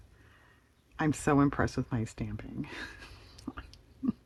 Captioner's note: laughs